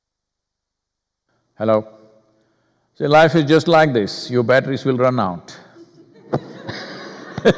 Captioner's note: laughter